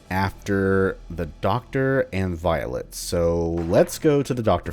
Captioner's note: journal closes